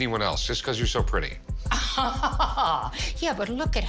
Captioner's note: laughs